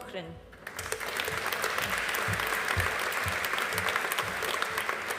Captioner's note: audience applauding